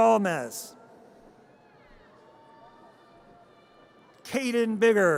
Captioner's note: audience cheers